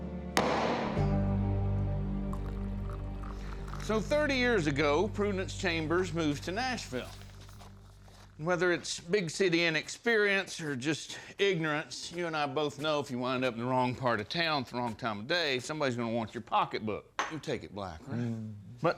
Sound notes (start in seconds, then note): 0.4 gavel bangs; 2.2 liquid pouring